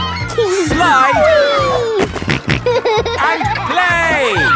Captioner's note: giggles; snorting